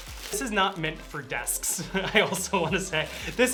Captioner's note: laughing